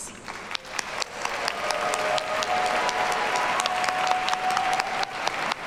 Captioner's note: audience cheers and applauds